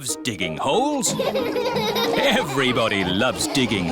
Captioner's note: all laughing